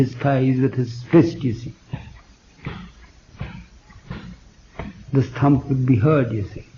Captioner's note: makes the sound of beating his thigh with his fist